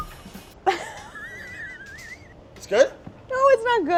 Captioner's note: laughing